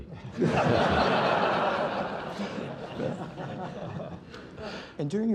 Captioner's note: laughter